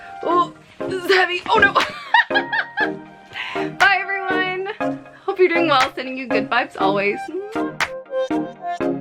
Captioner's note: laugh